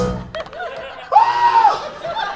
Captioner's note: Doc screams, revolted